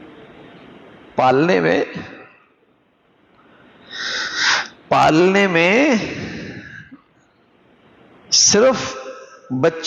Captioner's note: gasp